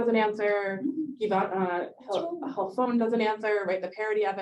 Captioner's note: Hebrew